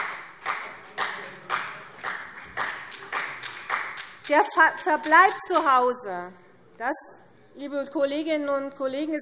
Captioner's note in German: Vereinzelter Beifall CDU